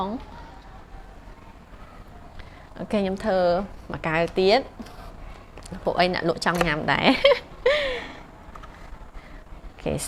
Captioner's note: giggles